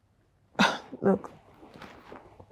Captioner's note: scoffs